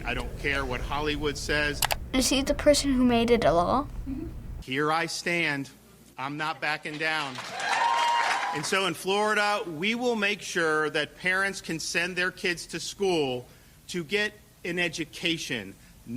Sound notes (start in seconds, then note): 7.1 audience cheers